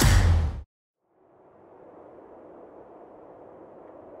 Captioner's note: wind howling